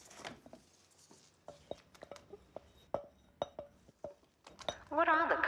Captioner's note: batter rustling